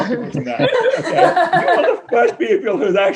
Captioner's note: laughter